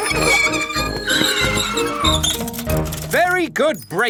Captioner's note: giggling and ringing bells; tires screech